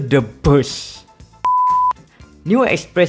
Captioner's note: beep